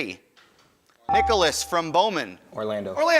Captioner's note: ding